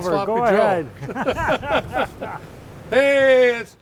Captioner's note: laughter